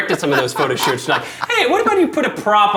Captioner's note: laughing